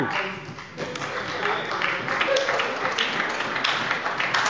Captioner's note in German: Beifall bei der SPD und bei Abgeordneten der FDP